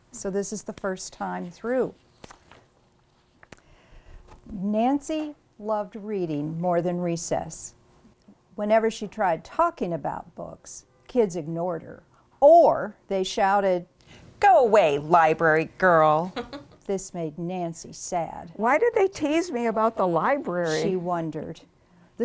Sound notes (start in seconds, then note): 4.5 reading from the book